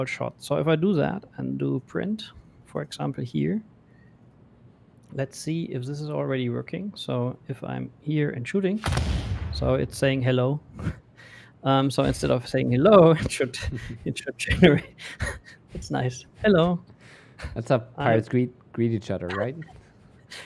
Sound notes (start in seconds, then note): 8.8 booming sound; 13.0 laughing